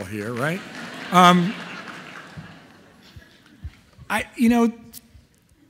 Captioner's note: audience laughing